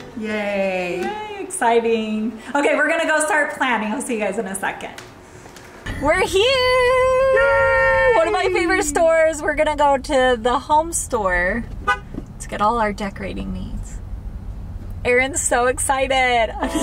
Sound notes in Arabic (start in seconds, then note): 11.8 أصوات صفير السيارة